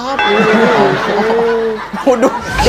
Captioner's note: laughing